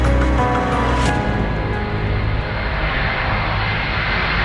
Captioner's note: aircraft engine roaring